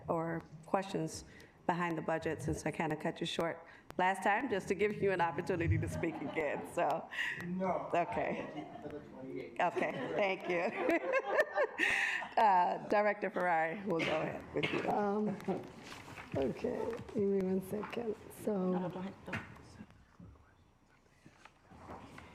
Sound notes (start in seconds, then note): 5.6 directors laughing; 9.3 faintly speaking; 12.3 laughs; 19.2 faintly speaking